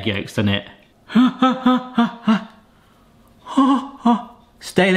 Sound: breathing nervously

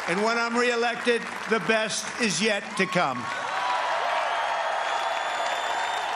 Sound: cheers and applause

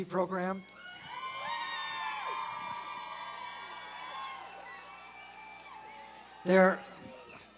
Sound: applause and cheering

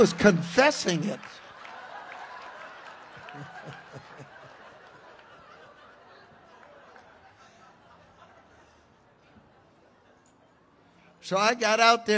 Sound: congregation laughs

